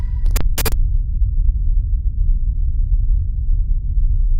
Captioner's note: static hisses